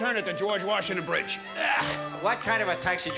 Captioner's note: grunts